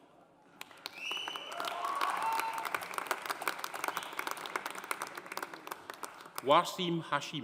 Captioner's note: audience applauding; audience cheering